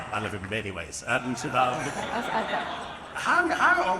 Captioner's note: audience laughing